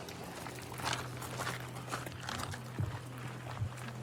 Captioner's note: footsteps crunching